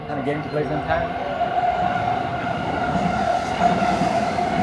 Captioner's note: train passing